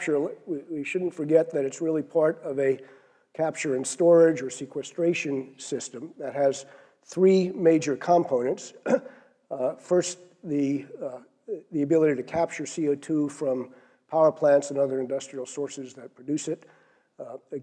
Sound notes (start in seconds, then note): 8.8 cough